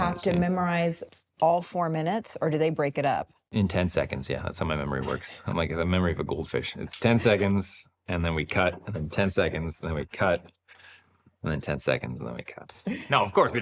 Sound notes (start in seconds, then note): 7.0 laughs